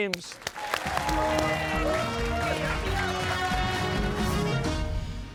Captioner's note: cheers and applause